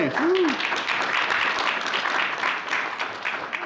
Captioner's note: applause